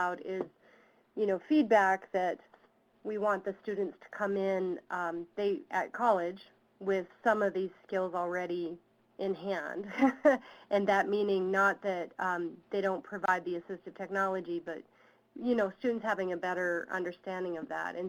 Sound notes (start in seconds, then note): 9.9 laughs